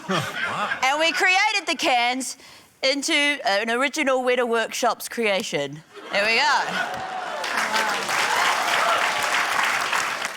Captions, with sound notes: - Oh, wow. - ...and we created the cans into an original Weta Workshops creation. There we go. (CHEERING, APPLAUSE)